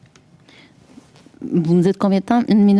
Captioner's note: speaking French